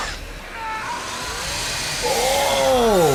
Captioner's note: yells; machine whirs